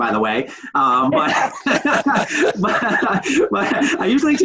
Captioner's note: laughing